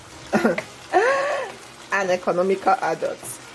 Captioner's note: laughs